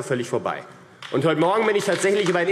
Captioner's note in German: Beifall AfD